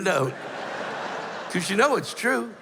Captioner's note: laughter